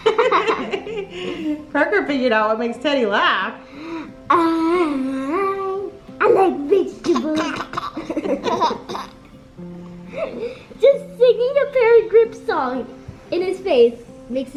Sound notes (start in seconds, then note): 0.0 laughs; 7.0 giggles